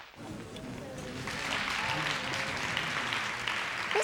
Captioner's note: cheers and applause